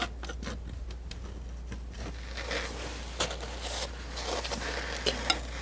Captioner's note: scratching